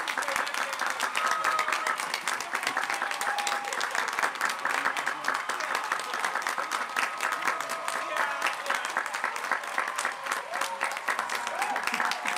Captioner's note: applause